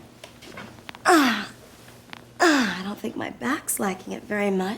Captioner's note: groaning